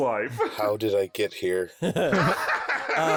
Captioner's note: flatly; laugh